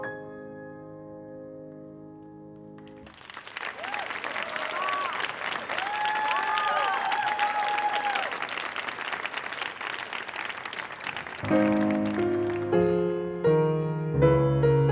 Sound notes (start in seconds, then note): 2.8 audience applauding; 11.7 piano keys tinkling